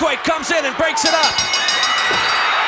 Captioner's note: audience cheering; bell ringing